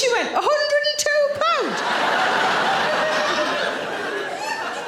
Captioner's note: audience laughing